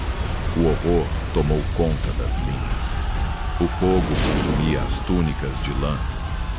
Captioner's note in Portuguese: grito